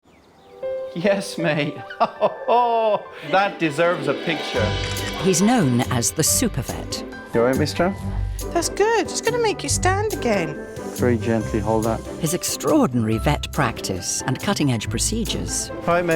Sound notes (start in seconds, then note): 0.6 birds chirping; 1.3 gentle music; 1.4 laughing